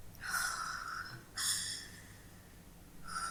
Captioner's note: exhales